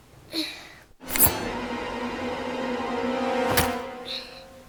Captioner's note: knife stabbing